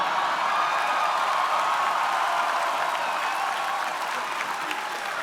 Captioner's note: audience clapping